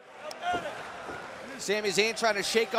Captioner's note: crowd cheering